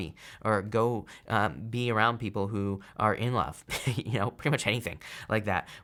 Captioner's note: chuckles